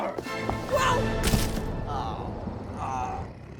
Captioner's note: body thumping; bucky groaning